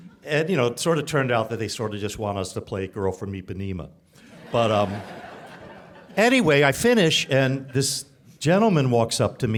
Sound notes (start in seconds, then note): 4.3 audience laughing